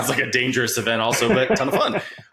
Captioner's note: laughing